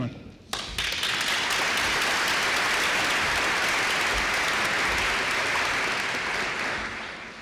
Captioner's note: applause